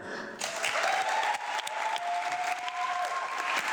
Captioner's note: audience clapping